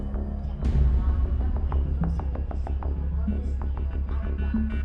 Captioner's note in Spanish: Voz en altoparlantes